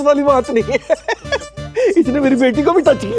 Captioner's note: Laughs